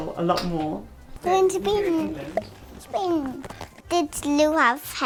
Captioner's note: babbling